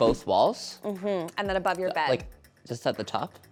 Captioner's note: hums